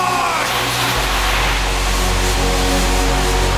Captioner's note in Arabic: مدافع هوائية، تشجيع الجمهور